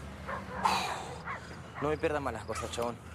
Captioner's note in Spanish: Miguel resopla